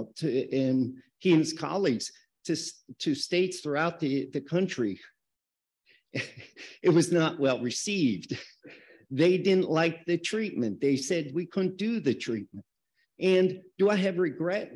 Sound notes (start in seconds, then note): 6.1 chuckles